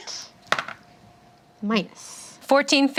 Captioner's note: dice roll